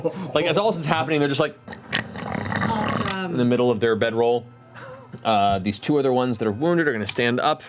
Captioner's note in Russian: храпят